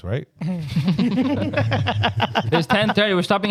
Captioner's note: laughing